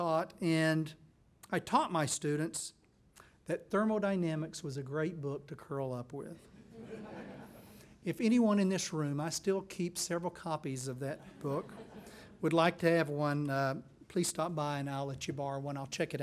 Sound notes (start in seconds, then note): 6.5 laughing